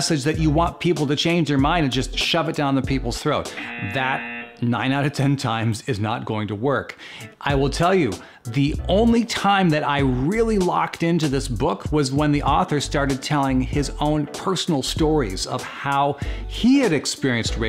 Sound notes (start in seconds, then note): 3.5 buzzer buzzing